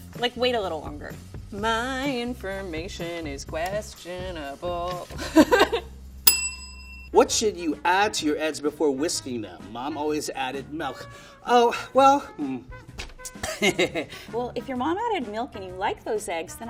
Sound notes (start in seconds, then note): 4.8 laughing; 6.2 bell rings; 13.3 laughing